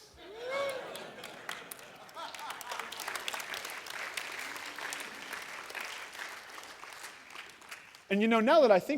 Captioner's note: laughter, applause